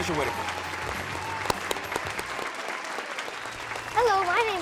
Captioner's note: audience applauds